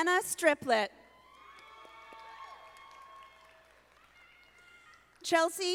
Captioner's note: audience applauding